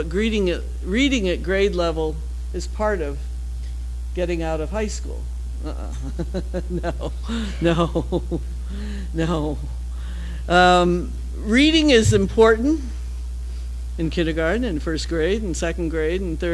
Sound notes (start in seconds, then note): 5.7 laughs